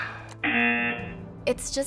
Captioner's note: sighs; buzzer